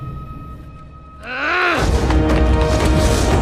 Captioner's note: angry snarl